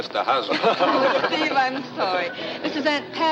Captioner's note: group laughs